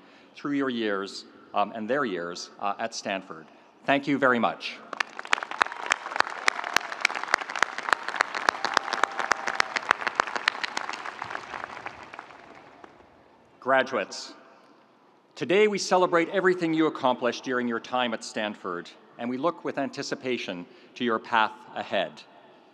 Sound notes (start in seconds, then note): 4.9 audience applauding; 5.4 audience cheering